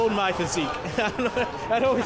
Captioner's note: laughs